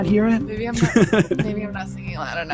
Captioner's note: laughs